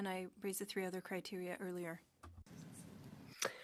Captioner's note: speaking French